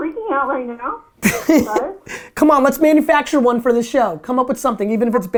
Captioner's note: laughs